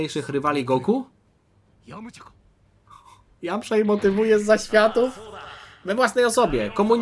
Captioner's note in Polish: parsknięcie